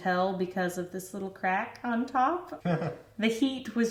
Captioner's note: chuckles